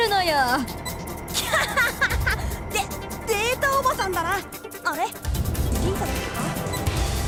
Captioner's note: laugh